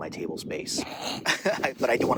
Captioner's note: laughs